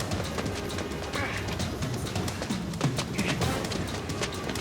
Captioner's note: Jeff grunts